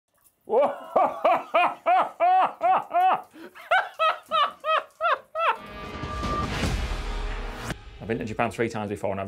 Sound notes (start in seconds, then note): 0.6 laughter; 5.6 intense music